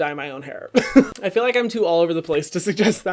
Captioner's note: laughs